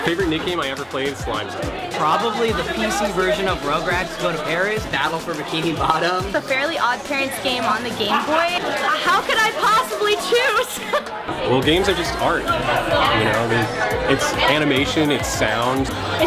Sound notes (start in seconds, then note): 6.0 chuckles; 11.0 laughs